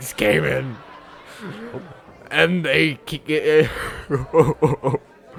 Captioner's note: he sobs